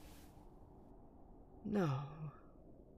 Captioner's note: rustling